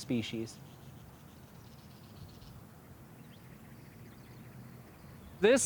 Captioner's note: desert bird sounds